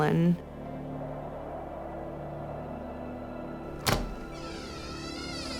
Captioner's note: air whooshing; door creaking open